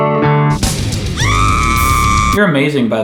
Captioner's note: screaming